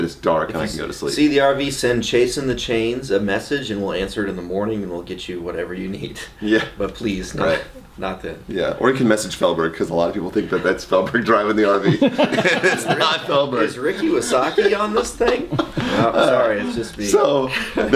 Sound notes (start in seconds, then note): 11.8 laughs loudly